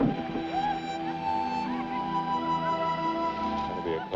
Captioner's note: distant laughing and chattering